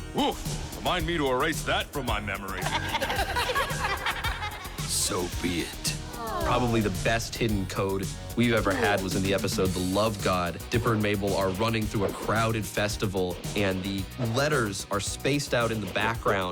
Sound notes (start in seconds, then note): 2.5 both laugh; 5.4 sighing